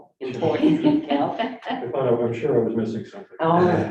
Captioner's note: laughing